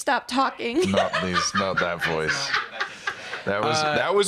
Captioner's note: cackling